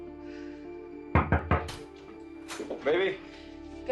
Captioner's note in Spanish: Toques en la puerta